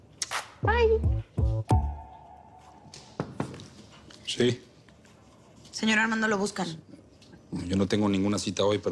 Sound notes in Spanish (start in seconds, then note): 3.2 Toques en la puerta